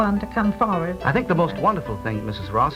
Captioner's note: voiceover